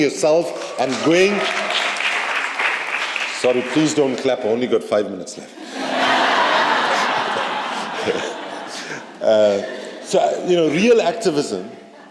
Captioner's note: laughter